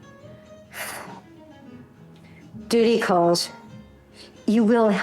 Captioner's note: sighs